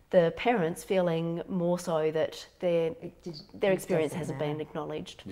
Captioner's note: murmurs